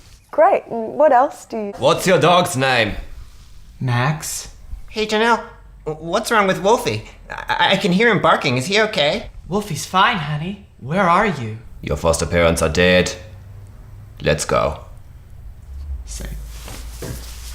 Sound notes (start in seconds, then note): 1.8 austrian accent; 11.5 imitates schwarzenegger